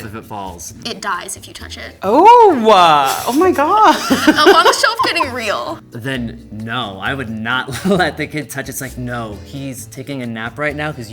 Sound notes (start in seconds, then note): 4.0 laughing